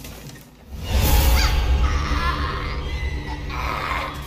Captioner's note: mia jumpscare